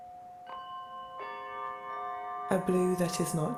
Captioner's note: chimes ringing